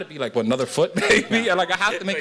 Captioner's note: chuckles